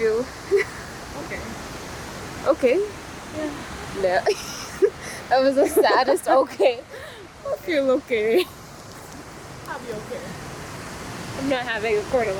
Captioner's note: laughs